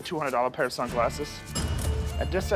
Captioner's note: cash register dings